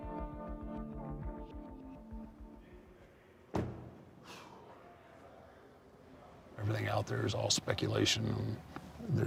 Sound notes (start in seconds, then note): 3.5 door thuds; 4.2 Mark sighs